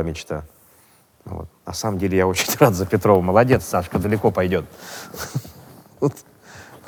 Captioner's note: chuckles